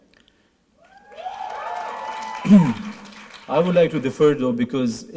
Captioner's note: applause